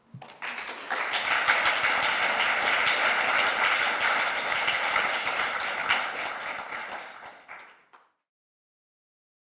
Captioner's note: applause